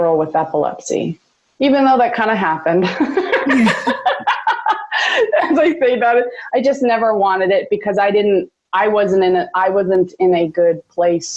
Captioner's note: laughs